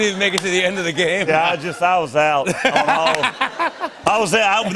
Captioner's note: laughter